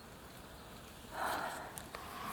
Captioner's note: exhales